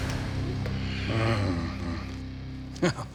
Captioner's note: grumbles; laughs